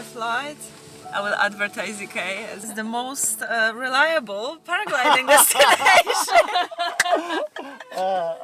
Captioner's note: laughing